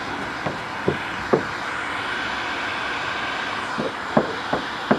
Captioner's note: blowing noise continues